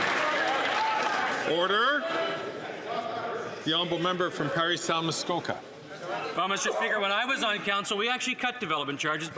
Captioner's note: some Applause